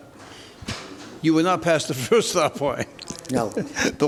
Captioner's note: chuckles